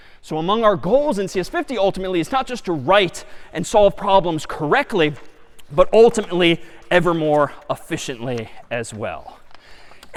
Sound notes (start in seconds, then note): none